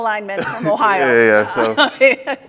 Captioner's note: laughs